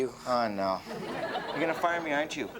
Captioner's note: audience laughs